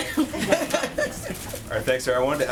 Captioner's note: laughter